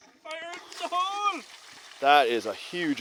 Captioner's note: water splashing